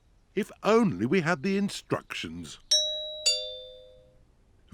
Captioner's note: doorbell rings